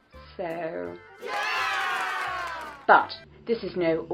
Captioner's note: cheer